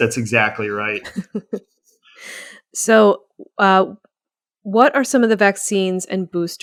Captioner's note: chuckles